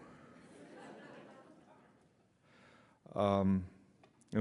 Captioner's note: laughter